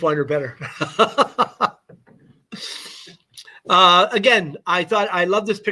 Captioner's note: laughter